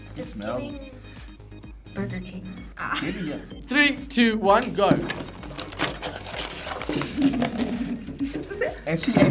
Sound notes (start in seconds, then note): 2.8 laughing; 6.9 laughing